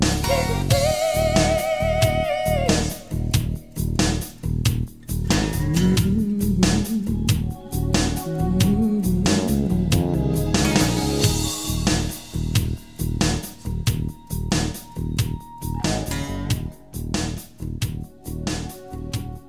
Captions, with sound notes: If you please [HUMMING] [HUMMING]